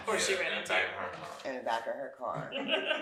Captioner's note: speaking faintly; all laughing